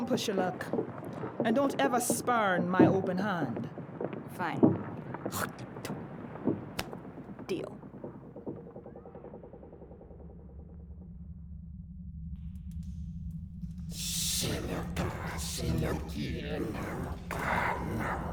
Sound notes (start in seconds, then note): 6.7 sharp whispers like the Templars' chanting